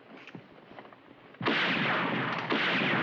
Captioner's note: gunshots